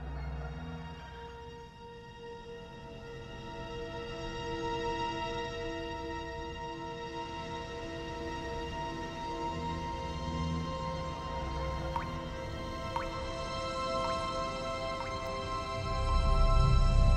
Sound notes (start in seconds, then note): 0.1 suspenseful orchestral music; 10.9 water dripping